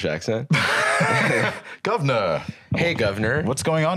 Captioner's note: laughs